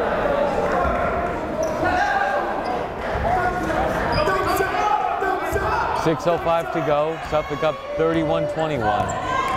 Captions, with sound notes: (yelling) 6:05 to go, Suffolk up 31, 21.